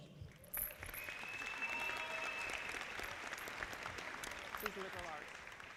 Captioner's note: audience applauding